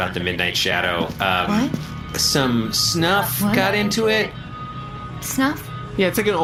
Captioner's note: quietly